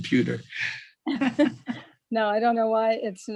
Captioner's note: laughs